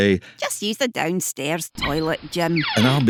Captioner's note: door creaks